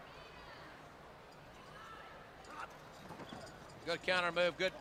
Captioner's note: crowd chatter